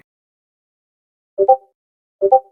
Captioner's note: Discord Ping Sound; Discord Ping Sound x 2